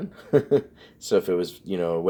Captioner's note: laughs